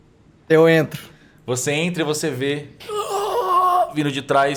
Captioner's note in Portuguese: Grunhido